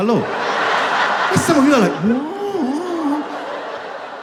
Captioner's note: surprised